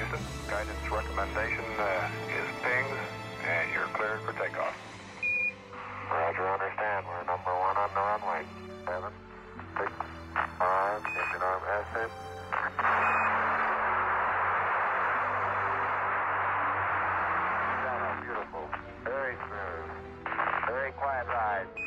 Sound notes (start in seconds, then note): 5.2 beeping sound; 8.7 garbled radio communication; 12.4 static noise; 21.7 beeping sound